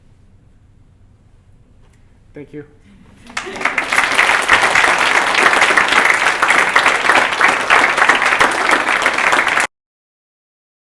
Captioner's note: applause